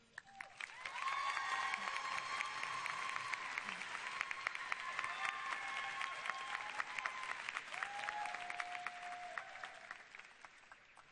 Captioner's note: applause and cheers